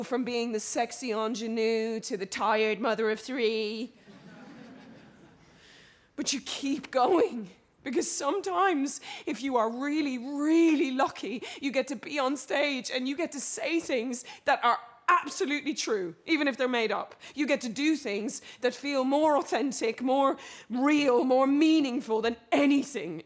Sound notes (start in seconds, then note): 4.1 audience laughs